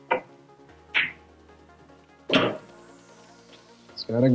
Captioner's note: balls clanging